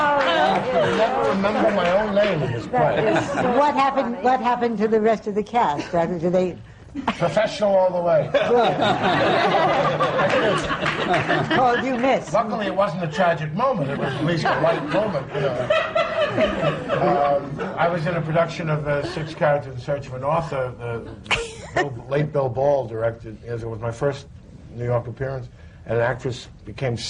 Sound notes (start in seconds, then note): 8.2 laughter